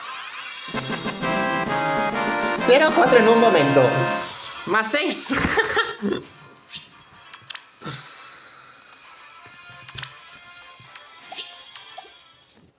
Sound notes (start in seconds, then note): 5.2 laughs